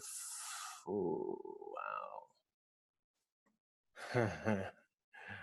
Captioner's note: laughs